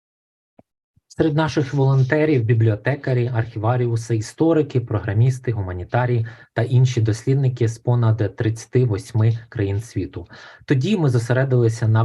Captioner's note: foreign Language Spoken